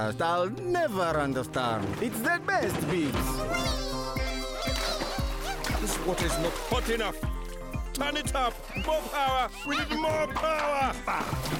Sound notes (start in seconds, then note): 3.4 Bongalalas exclaiming happily